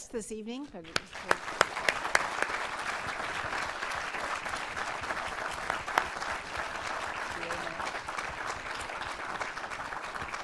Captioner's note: applause